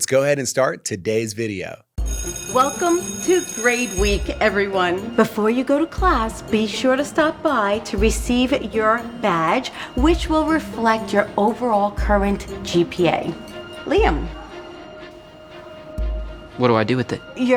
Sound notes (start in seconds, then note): 2.0 school bell rings